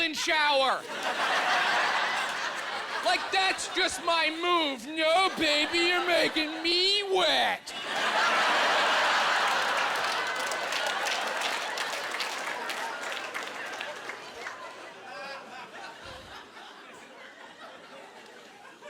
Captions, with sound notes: my go-to move is some kind of sneaky golden shower. (Laughing) Like that's just my move. "No, baby, you're making me wet."